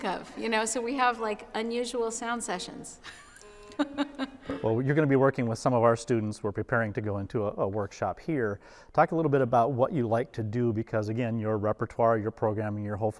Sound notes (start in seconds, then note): 3.1 laughs